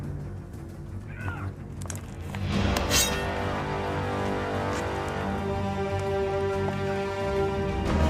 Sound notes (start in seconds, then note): 2.8 sword scraping